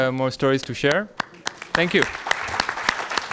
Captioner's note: audience clapping